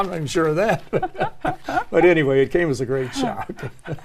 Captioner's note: laugh